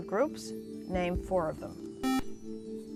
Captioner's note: buzzer